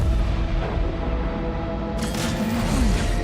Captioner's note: gun fires